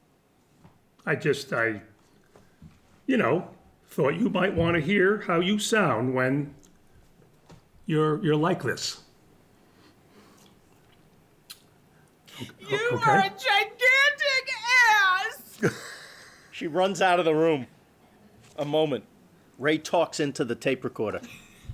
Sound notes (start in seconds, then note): 12.3 sobbing